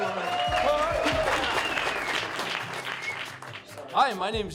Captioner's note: applause